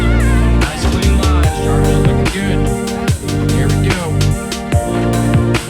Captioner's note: crowd cheers